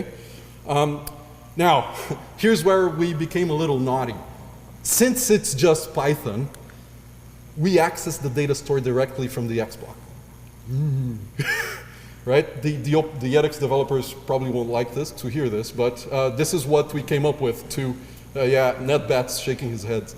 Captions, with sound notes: Okay, now here's where we became a little naughty. Since it's just Python we access the data stored directly from the XBlock. Oh. [LAUGH] Right? The edX developers probably won't like this, to hear this, but this is what we came up with to, yeah,Matt is shaking his head.